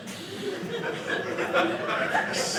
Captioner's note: audience laughing